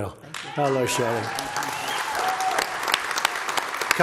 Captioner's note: applause